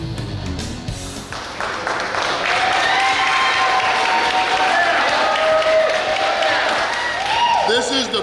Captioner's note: cheering & Clapping